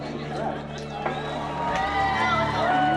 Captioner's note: applause